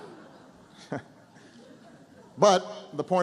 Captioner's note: laughter